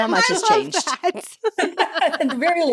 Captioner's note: laughs